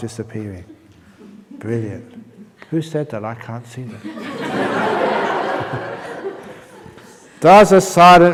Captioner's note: laughter